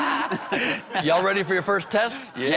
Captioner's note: laughter